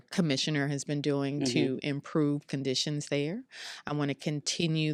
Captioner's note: mmhmms